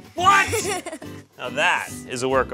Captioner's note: laughs